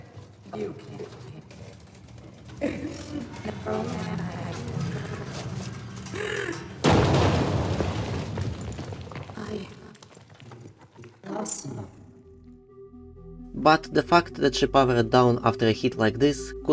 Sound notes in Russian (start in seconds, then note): 0.0 Множество шагов, со стуком как будто её вжали в стену; 0.0 Слабая борьба и возможно звук того как Мимик её поднимает; 6.8 Громкий БАМ металла об бетон